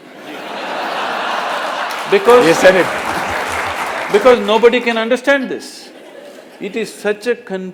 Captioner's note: laughter/Applause; laughter